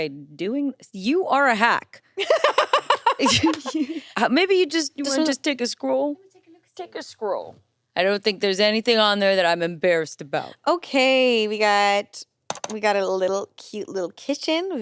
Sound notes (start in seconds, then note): 2.2 laughs